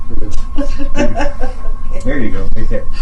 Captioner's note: laughing